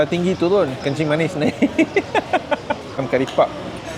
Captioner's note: laugh